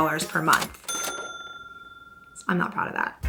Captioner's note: cash register dings